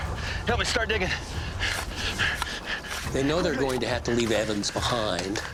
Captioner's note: digging